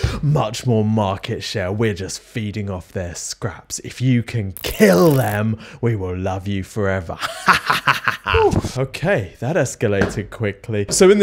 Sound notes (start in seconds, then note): 6.9 laughs